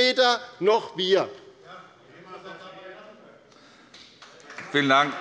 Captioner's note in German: Beifall bei der LINKEN - Zurufe von der SPD